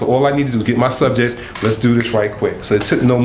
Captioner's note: snaps